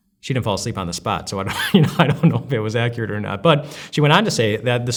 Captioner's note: laughs